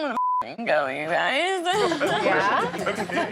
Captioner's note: laughter